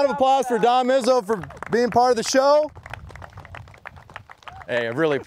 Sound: applause

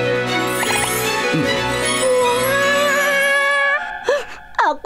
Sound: chimes ringing

